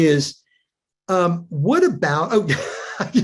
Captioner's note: chuckles